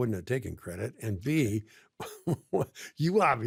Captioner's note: laughs